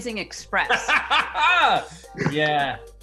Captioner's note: laughing